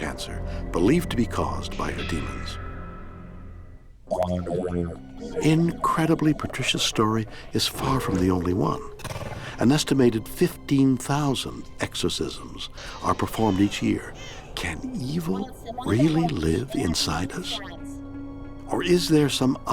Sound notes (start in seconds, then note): 4.4 deep distorted voice speaks; 4.4 tense brooding music